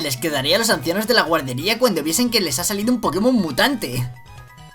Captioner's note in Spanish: Tono irónico